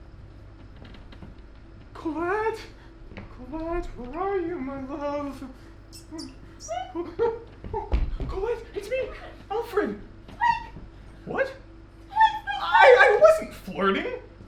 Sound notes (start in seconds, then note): 2.5 hushed; 6.6 in squeaks; 10.5 in squeaks